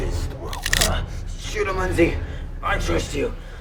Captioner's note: gun cocking